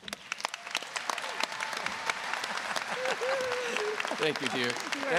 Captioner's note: applause